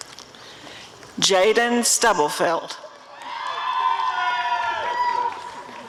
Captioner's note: applause and cheering